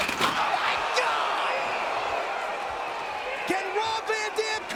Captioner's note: table crashing